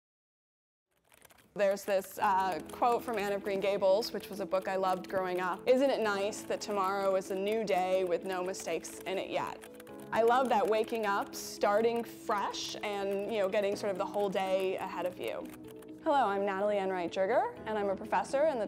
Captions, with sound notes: [keyboard clicking] There's this quote from Anne of Green Gables, which was a book I loved growing up. ‘Isn't it nice that tomorrow is a new day with no mistakes in it yet?’ I love that. Waking up, starting fresh and getting sort of the whole day ahead of you. Hello, I'm Natalie Enright Jerger and I'm a professor in the